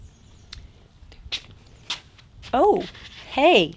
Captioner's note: birds chirping; pattering flip-flops